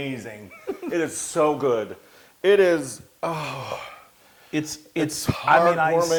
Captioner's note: laugh